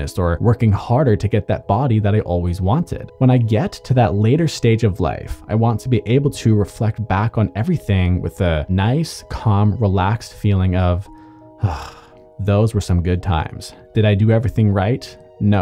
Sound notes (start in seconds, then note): 11.1 exhales